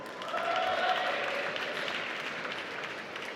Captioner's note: applause